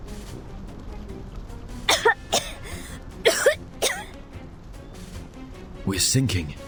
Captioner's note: coughs